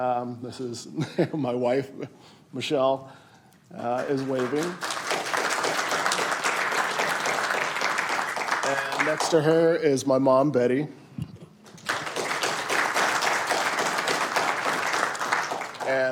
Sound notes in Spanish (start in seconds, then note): 11.6 aplausos